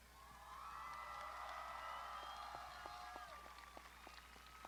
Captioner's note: crowd shouting